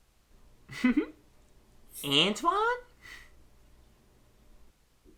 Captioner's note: giggles, imitates Sonic